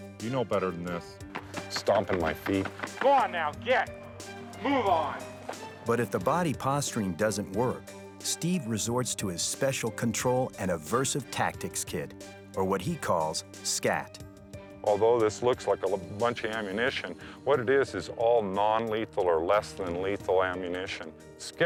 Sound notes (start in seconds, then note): 0.0 hands clapping; 1.2 feet stomping